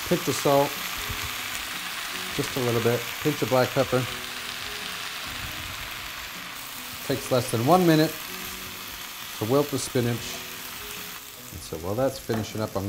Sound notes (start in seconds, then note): 4.2 oil sizzles; 8.5 oil sizzles